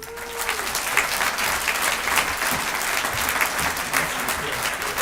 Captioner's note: audience applauds